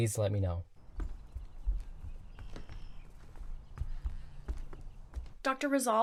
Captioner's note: footsteps retreating